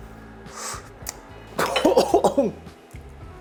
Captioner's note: coughs